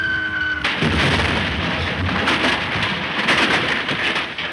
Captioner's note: Phantom screeching; Phantom exploding